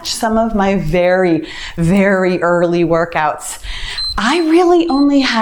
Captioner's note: timer beeps